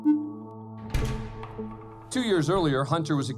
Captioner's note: door opens